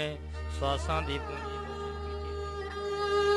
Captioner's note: chanting